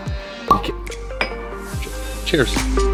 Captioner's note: glass clinking; cork popping